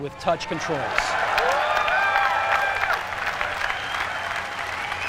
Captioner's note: applause